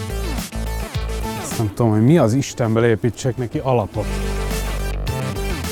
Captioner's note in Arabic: التحدث باللغة الهنغارية